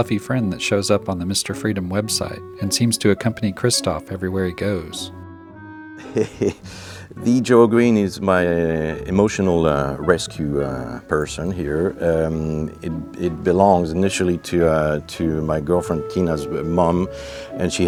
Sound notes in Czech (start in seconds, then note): 6.0 smích